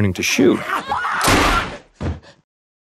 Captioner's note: gunshot